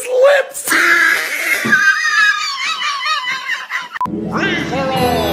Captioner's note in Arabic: يضحك